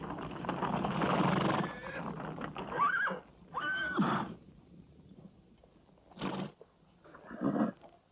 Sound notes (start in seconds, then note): 2.7 horse squealing